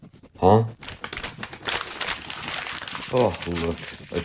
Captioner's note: Oliver crumples up paper into his hands